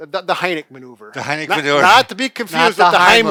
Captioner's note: chuckles